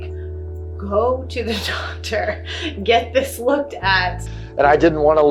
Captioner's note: laughs